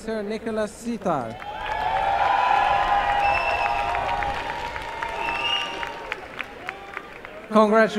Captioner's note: cheering and applause